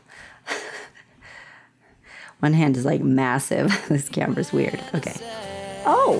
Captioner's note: laughter